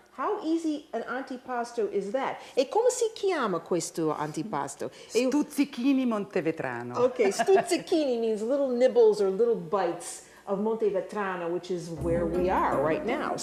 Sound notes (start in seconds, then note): 2.4 speaking Italian